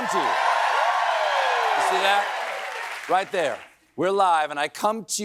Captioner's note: cheering